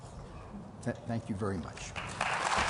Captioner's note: applause